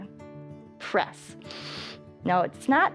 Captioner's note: inhales